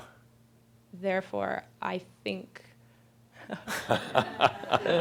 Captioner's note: they laugh